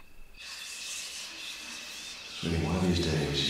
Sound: sound distorts

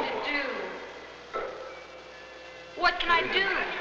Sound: coughing

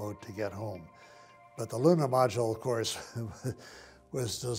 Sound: laughs

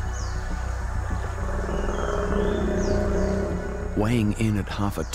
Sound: crocodile grunts

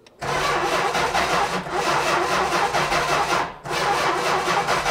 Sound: ignition stutters

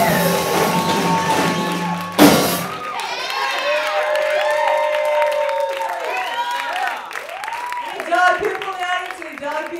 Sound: applause

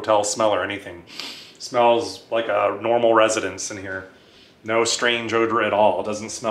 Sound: inhales

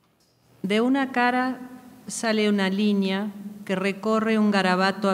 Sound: speaking in a foreign language

